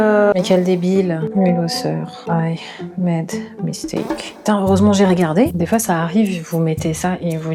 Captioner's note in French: bip